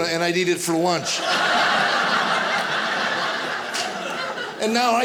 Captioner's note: audience laughing